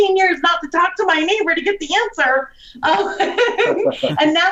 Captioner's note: laughs